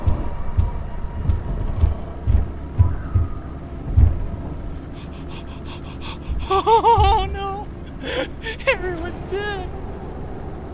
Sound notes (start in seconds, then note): 4.5 terrorized hyperventilating; 4.9 crying/laughing